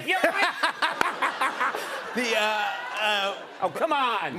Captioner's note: laughter